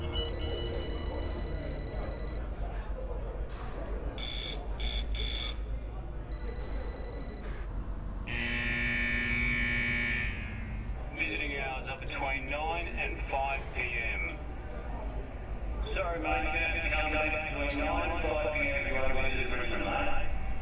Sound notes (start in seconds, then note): 4.0 bell rings; 8.2 klaxon